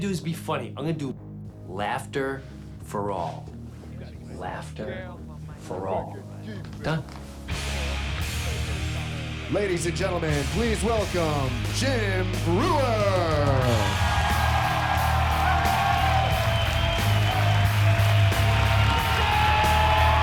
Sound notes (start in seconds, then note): 7.5 heavy metal music; 12.6 cheers and applause